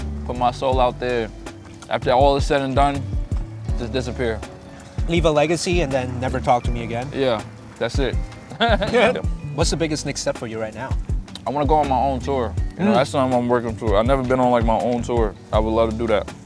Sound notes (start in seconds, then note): 12.8 laughs